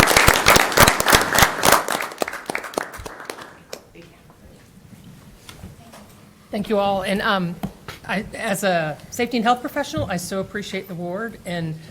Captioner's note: applause